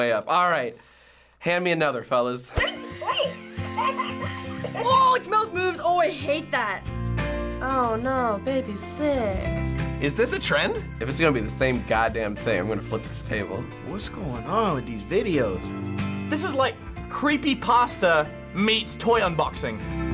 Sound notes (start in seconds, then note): 2.5 cheerful music; 3.7 doll babbling